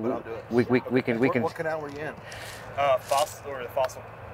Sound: speaks in faded tones

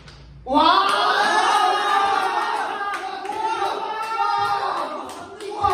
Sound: Prize: clapping and cheering

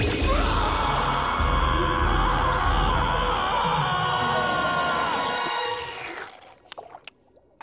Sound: screaming

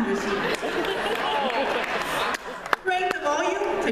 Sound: laughter

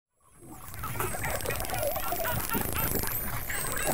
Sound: dolphins whistling

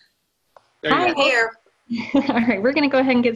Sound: laughs

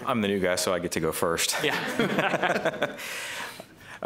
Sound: laughter

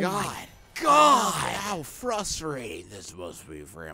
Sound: imitating Soul Calibur narrator

